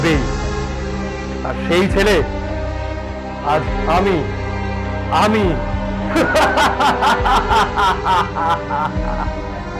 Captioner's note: maniac laugh